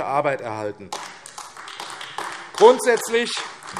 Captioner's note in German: Beifall AfD